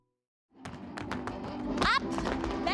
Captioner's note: tapping